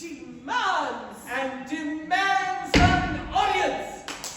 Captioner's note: stamps foot; clap clap!